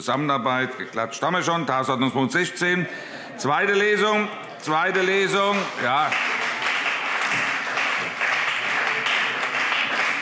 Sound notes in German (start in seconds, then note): 5.5 Beifall CDU und BÜNDNIS 90/DIE GRÜNEN